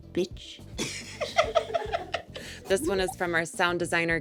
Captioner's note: Sarah and Richard laughing